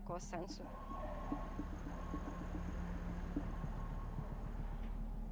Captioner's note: sirens sounding